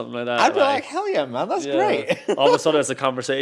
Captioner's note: laughs